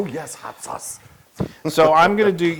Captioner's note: laugh